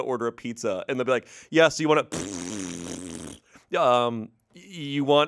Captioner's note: mimics fart